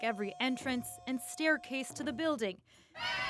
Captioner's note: chanting